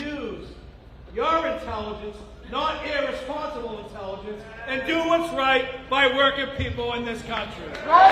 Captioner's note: applause